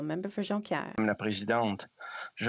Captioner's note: speaking French